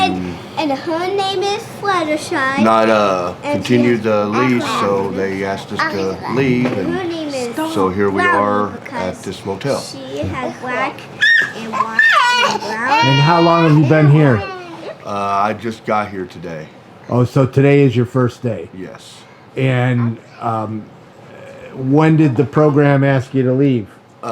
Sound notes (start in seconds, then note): 9.8 toddlers babbling